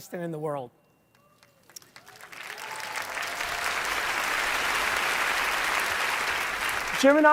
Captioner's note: applause